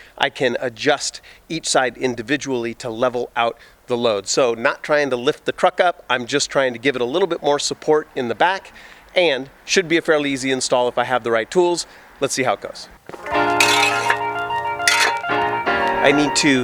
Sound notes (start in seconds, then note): 13.1 clanking; 13.1 gentle music